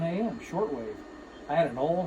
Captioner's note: drilling